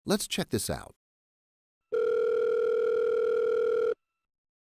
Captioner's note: phone rings